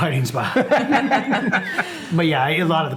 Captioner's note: all laughing